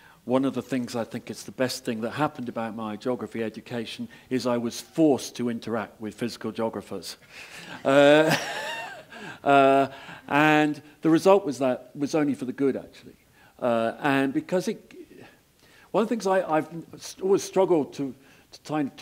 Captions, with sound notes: One of the things I think is the best thing that happened about my geography education is, I was forced to interact with physical geographers. [LAUGH] and the result was that was only for the good, actually. And because it, one of things, I, I've always struggled to, to try and